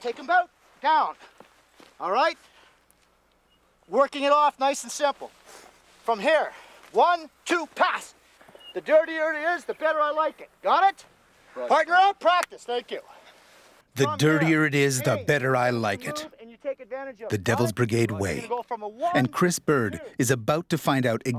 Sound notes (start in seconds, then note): 14.1 voiceover